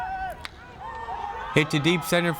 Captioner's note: bat cracks